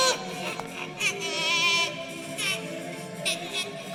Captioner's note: baby cries